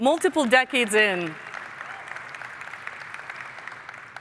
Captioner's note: applause